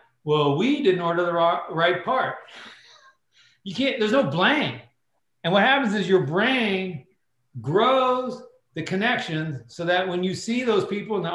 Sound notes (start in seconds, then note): 2.5 laughter